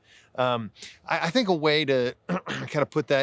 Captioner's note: clears throat